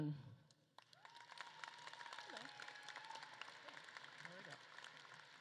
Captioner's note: audience claps and cheers